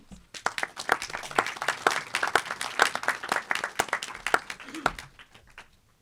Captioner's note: audience applauding